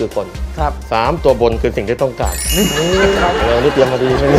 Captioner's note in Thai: เสียงหัวเราะ